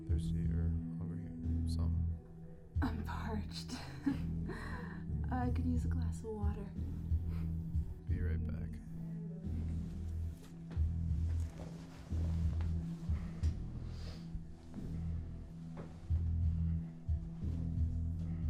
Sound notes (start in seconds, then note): 4.3 softly laughing; 9.5 eerie rock music; 11.1 sound of covers rusting JC gets out of bed; 13.0 JC takes deep breath before standing up